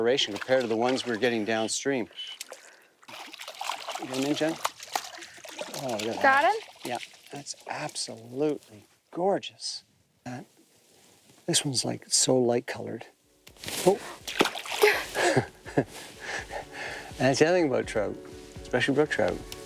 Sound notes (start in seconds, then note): 14.8 laughs